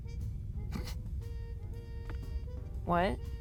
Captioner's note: scoffs